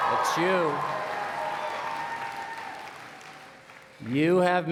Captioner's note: cheering